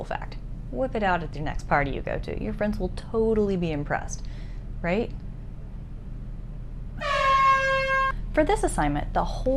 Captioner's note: air horn